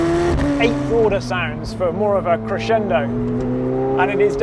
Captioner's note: engine revving; murmurs